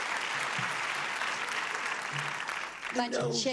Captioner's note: clapping